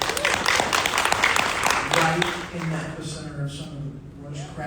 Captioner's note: audience applauding